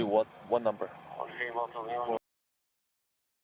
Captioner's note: radio chatter